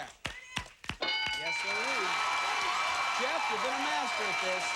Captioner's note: cheers and applause